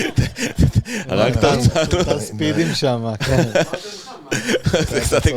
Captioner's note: laughs